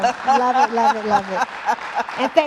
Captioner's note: applause